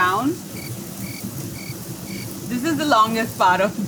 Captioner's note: cricket chirping